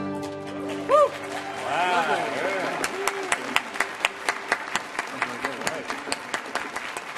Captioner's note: audience applauding; audience cheering